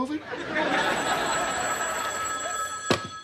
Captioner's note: telephone ringing